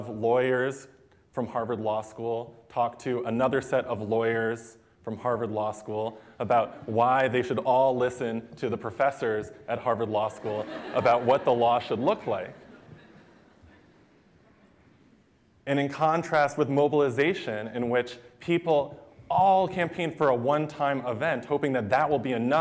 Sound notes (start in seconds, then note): 10.3 laughter